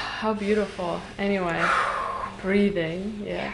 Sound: exhales

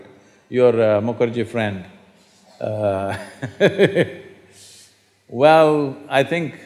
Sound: laughs

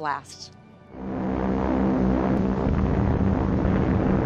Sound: airplane whirs

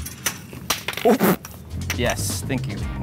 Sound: laughs

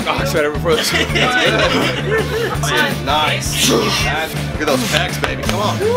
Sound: everyone laughs

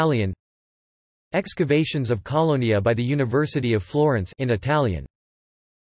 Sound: in Italian

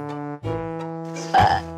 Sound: burping sound

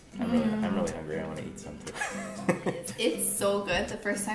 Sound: chuckles

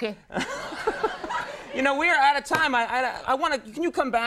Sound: laughs

